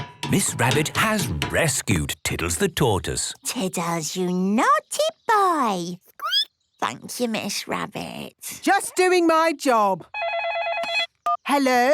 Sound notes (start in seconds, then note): 0.0 squeaking; 5.9 squeaking; 10.1 phone ringing